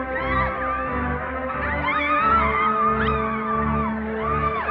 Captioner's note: cheering